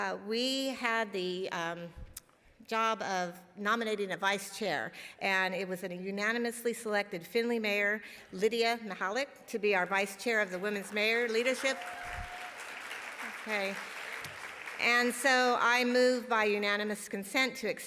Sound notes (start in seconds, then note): 12.4 audience applauding